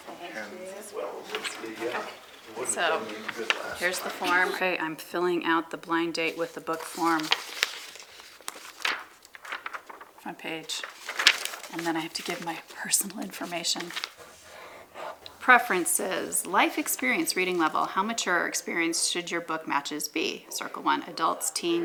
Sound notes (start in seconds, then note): 6.2 page flip; 14.0 pen scratching